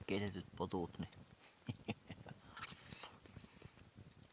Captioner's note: devilish chuckle